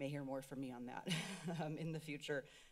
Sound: laughs

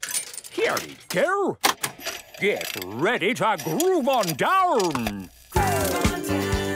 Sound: clicks, whirring; disco music plays

